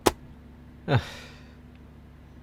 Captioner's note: laptop blue screens; more Joel sighs of disappointment